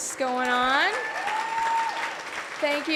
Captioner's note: audience cheering and applauding